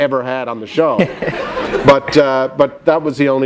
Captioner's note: laughter